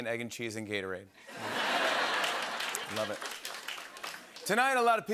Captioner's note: laughter and applause